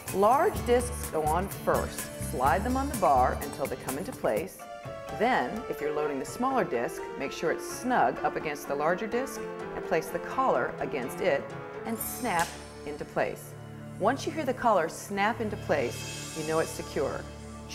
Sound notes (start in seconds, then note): 13.0 quick snapping